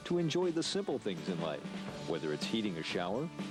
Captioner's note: radio announcer